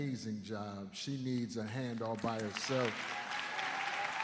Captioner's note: cheers and applause